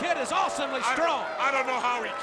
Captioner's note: crowd cheering